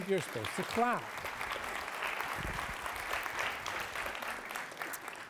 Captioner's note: applause